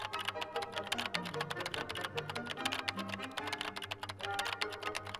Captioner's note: keyboard typing sound